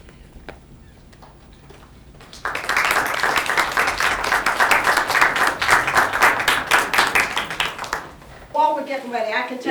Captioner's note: applause